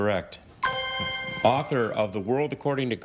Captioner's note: ethereal ring